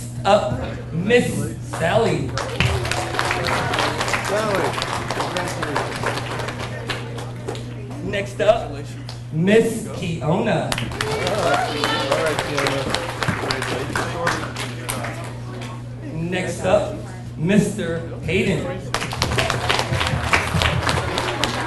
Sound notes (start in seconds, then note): 2.3 audience applauds; 10.7 audience cheers and applauds; 14.5 people chattering; 18.9 audience applauds